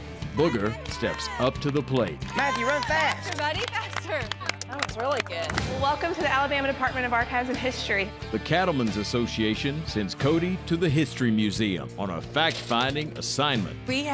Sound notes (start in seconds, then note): 4.5 clapping